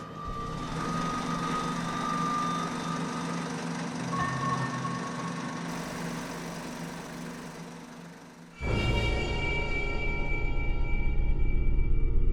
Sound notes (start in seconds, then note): 0.6 projector whirring; 4.4 gentle ominous music; 8.4 tense menacing music